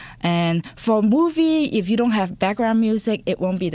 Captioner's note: none